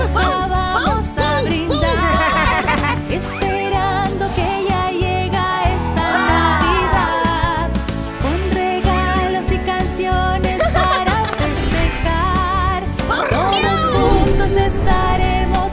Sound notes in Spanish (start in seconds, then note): 1.7 Risas; 10.5 Risas